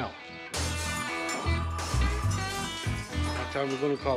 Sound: glass Shattering

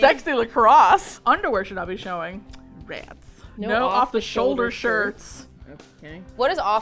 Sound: with disappointment

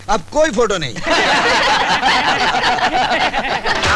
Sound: laughs

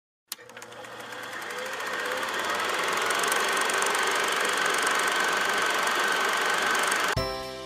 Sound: projector whirring

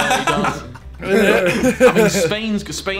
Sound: laughing

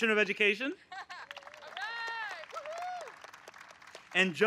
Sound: applause

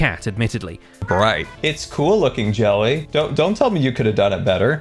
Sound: opinionated meow

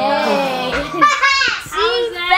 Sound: laughter

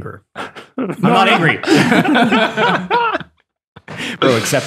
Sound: all laugh

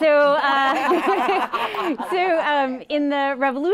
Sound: ladies laughing

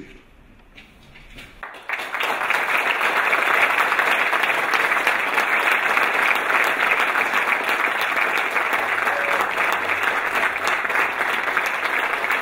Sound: applause

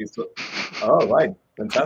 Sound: chuckles

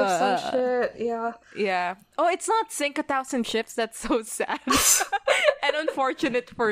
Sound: both laugh

